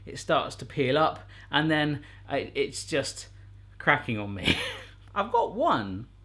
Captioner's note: laughs